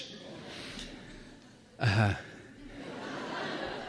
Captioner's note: sighs; laughter